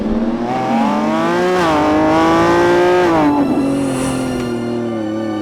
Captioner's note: car engine whining loudly; car engine roaring; lighthearted music